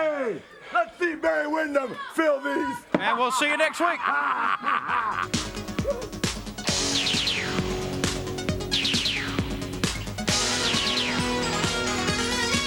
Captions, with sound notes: Hey, let's see Barry Windham fill these. (laughs) (shoes thudding) And we'll see you next week. (upbeat music) (graphics blipping)